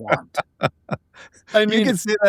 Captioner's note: laughing